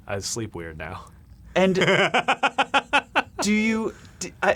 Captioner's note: laughing